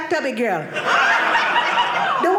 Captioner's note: audience laughing